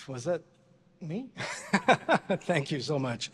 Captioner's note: laughs